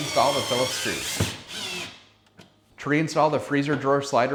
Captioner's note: drill whirring